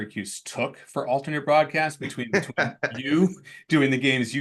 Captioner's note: laughs